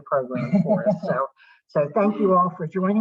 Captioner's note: both chuckling